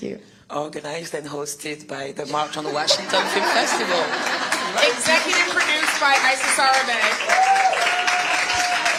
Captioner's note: laughter